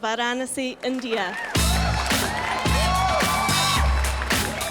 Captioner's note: crowd cheers